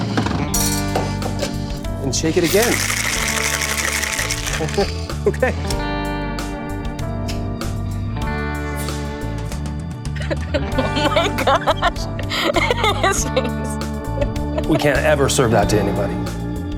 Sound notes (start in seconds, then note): 2.4 shaking; 10.1 laughs